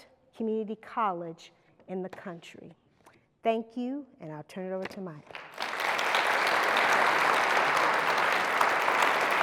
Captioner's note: applause